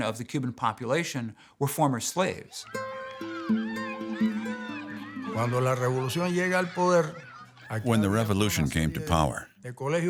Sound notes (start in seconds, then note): 5.7 speaking in Spanish